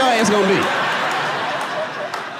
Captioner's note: audience laughing